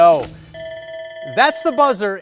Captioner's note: alarm blares